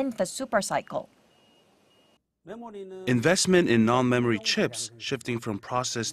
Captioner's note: Korean